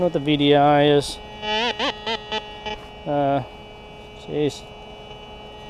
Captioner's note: detector beeps